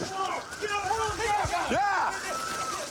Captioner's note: officers yelling